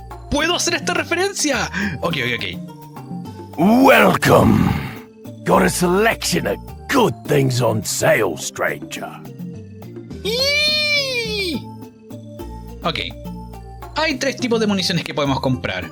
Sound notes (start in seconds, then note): 10.3 girly squee